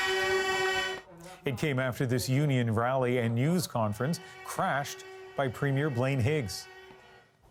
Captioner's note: horns honking